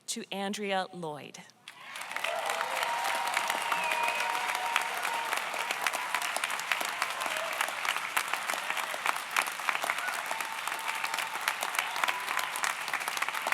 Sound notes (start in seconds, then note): 2.0 audience applauds; 2.0 audience cheers